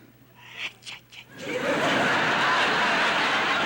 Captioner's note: laughter